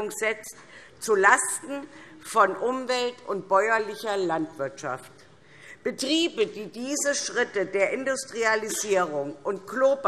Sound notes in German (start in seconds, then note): none